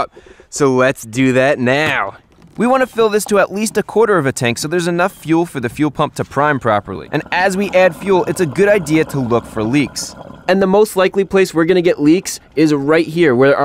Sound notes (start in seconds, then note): none